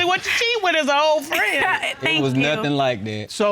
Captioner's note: laughs